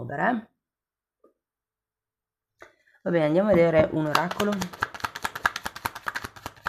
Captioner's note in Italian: Applauso